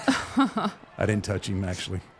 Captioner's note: laughing